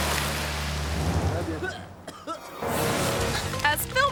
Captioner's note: splashes; dramatic music continues; chokes and coughs; dramatic music continues